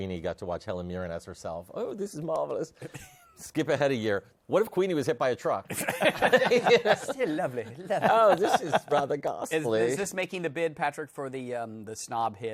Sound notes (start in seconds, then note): 0.2 English accent; 1.8 normal voice; 5.0 English accent; 7.1 normal voice